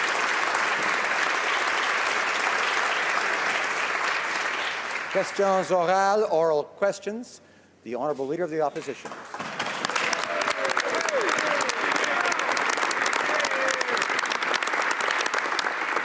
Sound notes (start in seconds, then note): 3.7 some Applause